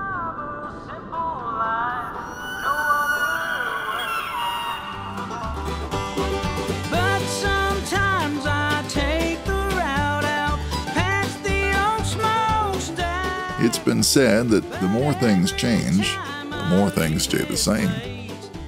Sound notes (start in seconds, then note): 2.2 elk calling; 5.6 banjo music